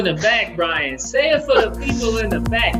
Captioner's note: chuckles